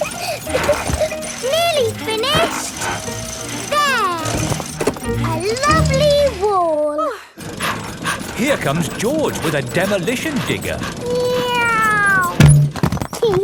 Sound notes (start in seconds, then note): 0.0 peppa laughing; 7.1 daddy pig panting; 11.3 george imitates airplane